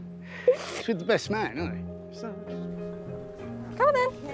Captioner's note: speaking faintly